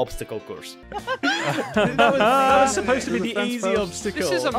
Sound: everyone giggling and chattering

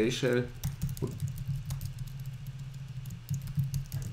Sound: typing

